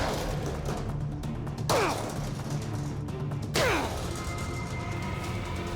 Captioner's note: grunting